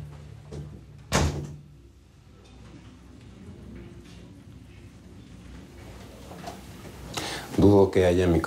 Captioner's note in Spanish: Sonido al cerrar la puerta